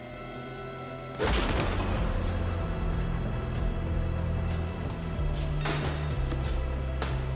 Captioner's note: tense music continues; blow thudding